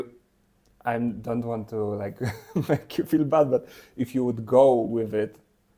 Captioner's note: laughs